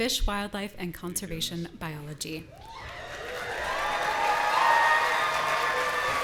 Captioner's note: audience cheering